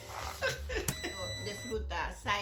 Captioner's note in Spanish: sonido: risa; sonido: piiii